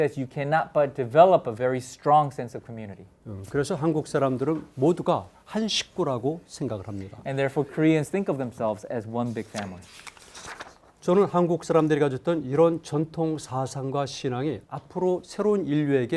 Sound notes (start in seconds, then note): 3.7 speaking in Korean; 9.2 page turning; 11.1 speaking in Korean